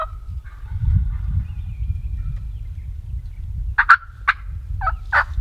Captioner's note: turkeys gobble in the distance